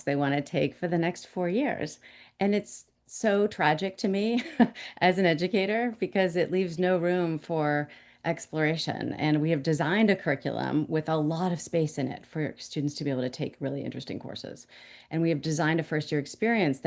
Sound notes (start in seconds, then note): 4.4 chuckle